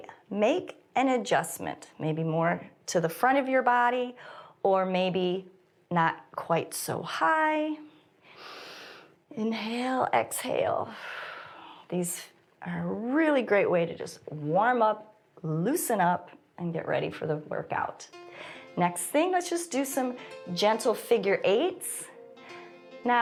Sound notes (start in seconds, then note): 8.3 inhales; 11.0 exhales